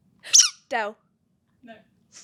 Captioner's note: Chloe SQUEAK; whisper